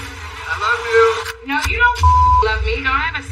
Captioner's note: bleebleep